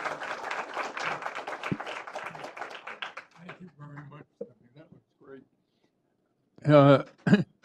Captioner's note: applause